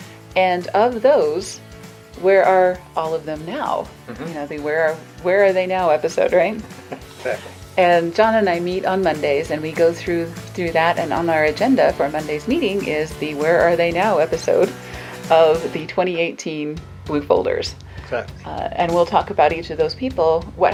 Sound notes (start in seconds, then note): 6.6 laughing